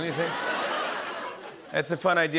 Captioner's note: laughter